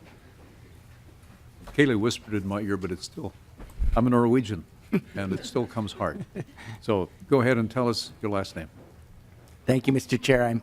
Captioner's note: laughter